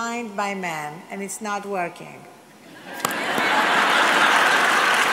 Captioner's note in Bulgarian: смях/аплодисменти